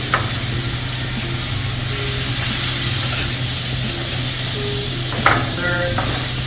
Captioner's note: ingredients sizzling; tongs hit countertop; tongs scrape the pan